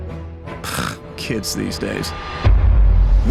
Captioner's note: sigh